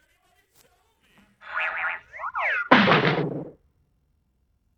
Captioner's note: bonk!; whoop!; boing!